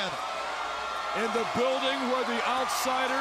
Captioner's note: crowd cheering